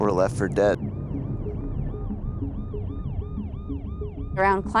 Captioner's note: distant siren blares